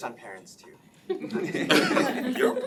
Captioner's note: laughing